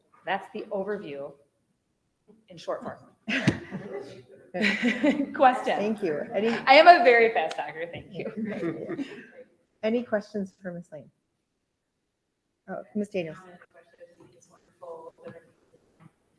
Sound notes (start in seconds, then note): 3.4 presenter laughs